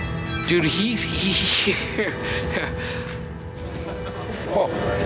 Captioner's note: laughs